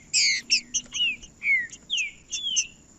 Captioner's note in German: trinca ferro cantando